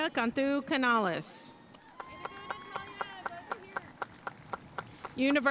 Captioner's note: audience cheering and applauding